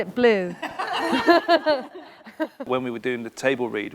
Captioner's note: laughing